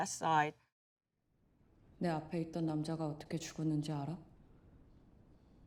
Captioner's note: speaking in foreign language